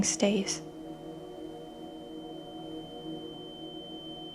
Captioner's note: high-pitch ringing